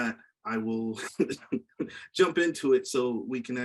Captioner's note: chuckles